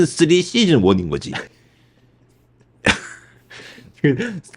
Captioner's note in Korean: 웃음